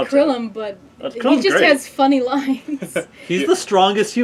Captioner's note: laugh